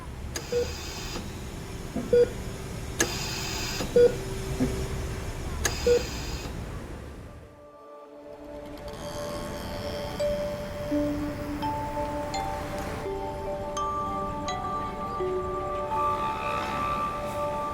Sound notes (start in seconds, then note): 2.1 ventilator machine beeping; 7.2 gentle music; 8.5 motorcycle engine roaring